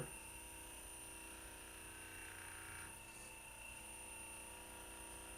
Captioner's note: Hypervolt Plus vibrating